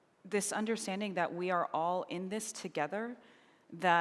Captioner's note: none